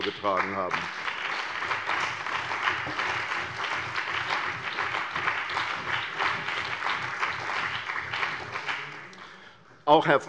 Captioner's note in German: Beifall bei der CDU und dem BÜNDNIS 90/DIE GRÜNEN